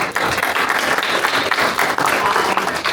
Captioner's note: applause